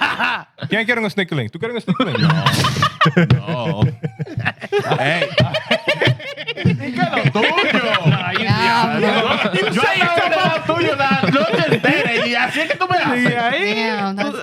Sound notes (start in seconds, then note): 0.2 laughter; 0.2 speaking Spanish; 6.6 laughter; 6.6 speaking Spanish; 8.1 laughter; 8.1 speaking Spanish